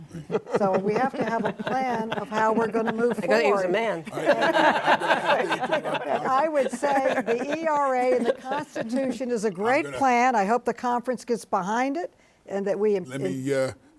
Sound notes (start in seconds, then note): 4.1 everyone laughs; 8.5 everyone laughing